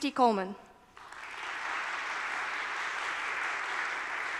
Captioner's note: applause